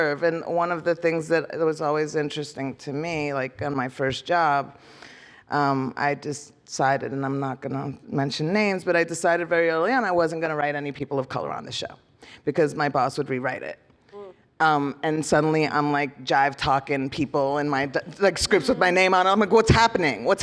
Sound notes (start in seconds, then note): none